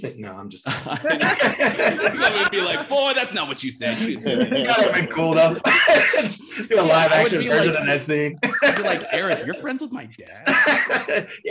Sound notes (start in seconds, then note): 0.7 all laugh; 3.8 laughs